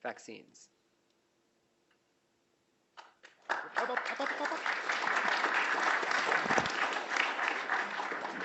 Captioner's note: applause